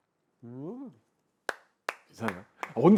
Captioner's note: applauses